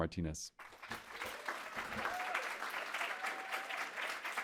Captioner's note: audience cheering